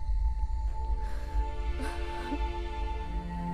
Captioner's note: Crying